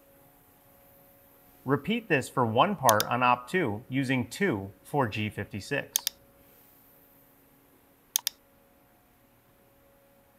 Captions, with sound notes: Repeat this for one part on Op-2 using two 4G56. (mouse clicking)